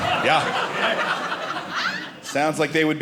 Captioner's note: audience laughing